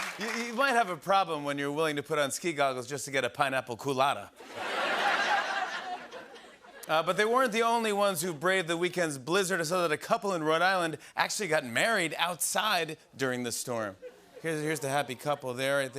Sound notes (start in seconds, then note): 0.0 applause; 4.4 laughter